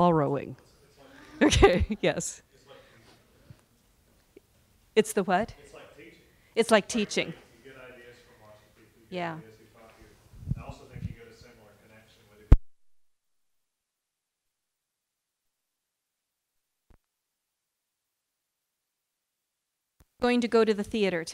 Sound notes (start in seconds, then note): 10.5 no audio--technical problem; 14.4 no sound